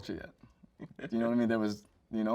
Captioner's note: host chuckles